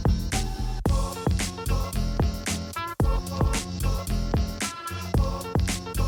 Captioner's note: vocalisation-like sounds seem to say 'bop.. bop' in a syncopated rhythm